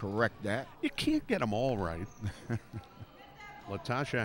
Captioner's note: laughs